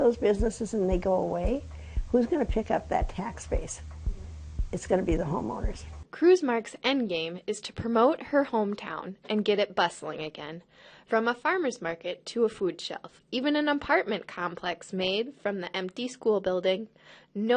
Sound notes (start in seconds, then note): 6.5 voiceover